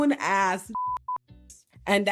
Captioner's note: beeping